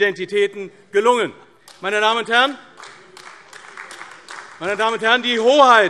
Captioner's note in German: Beifall AfD